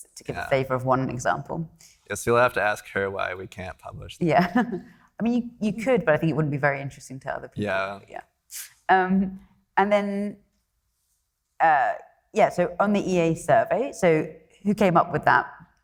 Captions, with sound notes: to give a favor - Yeah. - of one example. - Yes. You'll have to ask her why we can't publish. - Yeah. (laughs) You could, but I think it wouldn't be very interesting to other people, yeah. - Yeah. - And then, yeah, so on the EA survey, so who came up with that?